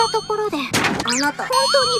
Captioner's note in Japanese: 物音